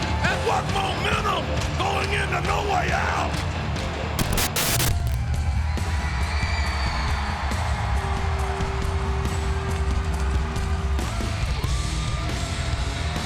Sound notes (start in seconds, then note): 4.2 screen hisses; 5.5 upbeat music; 6.5 audience cheering and clapping